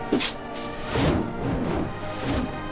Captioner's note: swooshing